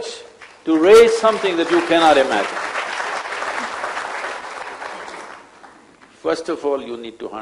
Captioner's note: applause